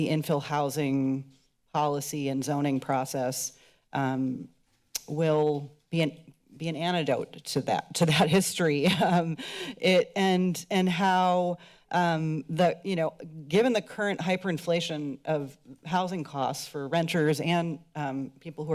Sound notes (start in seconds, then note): 4.9 click tongue; 9.1 chuckles